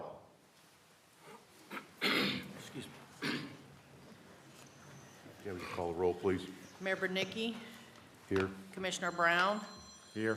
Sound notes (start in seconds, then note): 1.6 cough